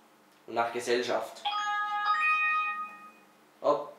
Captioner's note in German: Klingelton